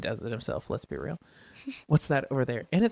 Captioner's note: laughs